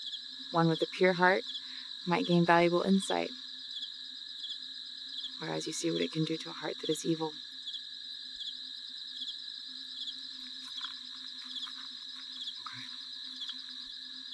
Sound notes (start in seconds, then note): 7.5 crickets Chirping